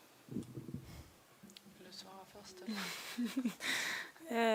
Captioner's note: Magda laughs